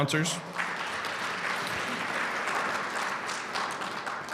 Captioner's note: audience applauding